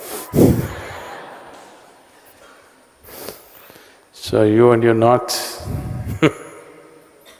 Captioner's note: laughter; laughs